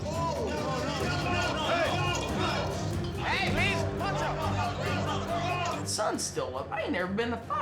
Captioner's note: shouting, fighting